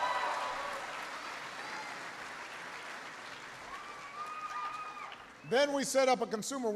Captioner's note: applause